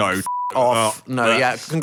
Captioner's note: beep